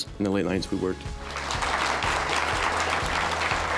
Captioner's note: applause